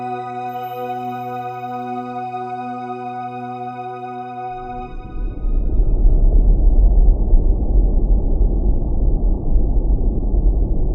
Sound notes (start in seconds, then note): 4.9 spaceship whirring